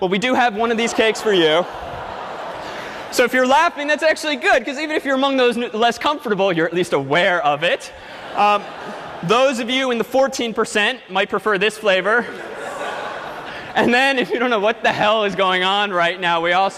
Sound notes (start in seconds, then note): 0.7 laughter